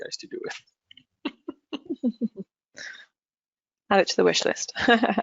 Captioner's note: laughs